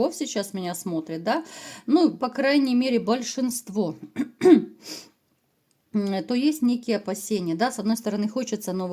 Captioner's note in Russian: кашель; откашливается